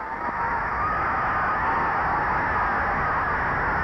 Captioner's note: crowd cheering